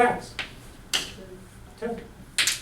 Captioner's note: voiceover